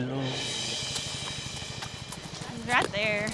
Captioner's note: singing in spanish; hoof beats